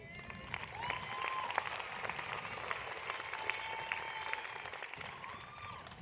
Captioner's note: applause